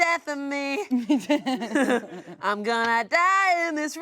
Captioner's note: everyone laughs